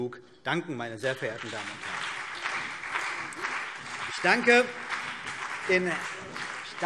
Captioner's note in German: Beifall CDU, BÜNDNIS 90/DIE GRÜNEN und SPD